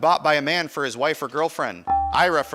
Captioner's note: buzzer dinging